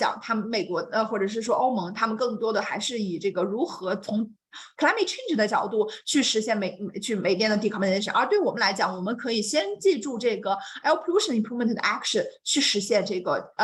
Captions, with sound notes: Climate change (speaks Mandarin).